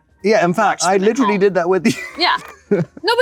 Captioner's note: chuckles